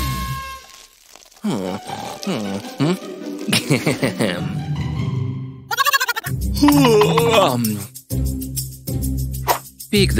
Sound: snoring

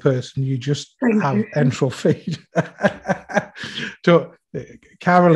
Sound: laughs

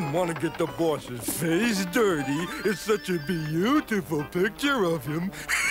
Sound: laughs

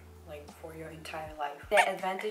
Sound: zoom zoom

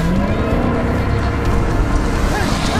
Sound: engine revs

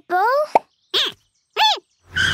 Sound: squeaking

